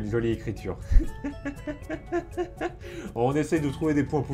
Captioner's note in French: Rires